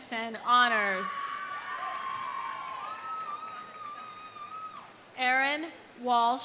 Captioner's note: audience cheering; audience applauding